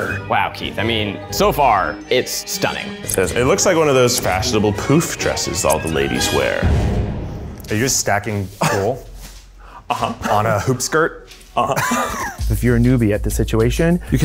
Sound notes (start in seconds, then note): 11.5 laughs